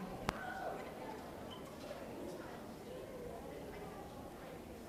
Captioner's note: people chattering